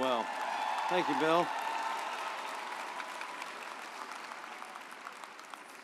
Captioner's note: audience applauds